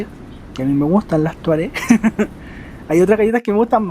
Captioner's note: laughs